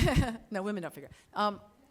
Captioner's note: laughs